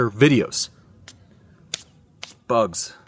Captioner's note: skin slapping